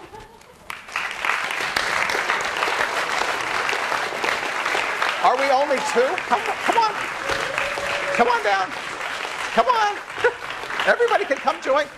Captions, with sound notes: [class applauding] Are we only two? Come on. Come on down. Come on. Everybody can come join.